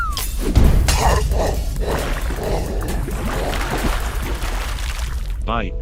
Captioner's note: coughing, sputtering